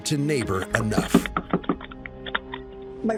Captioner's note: knocking